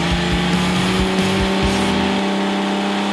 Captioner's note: engine revs